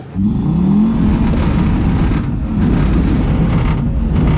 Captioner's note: engine revs up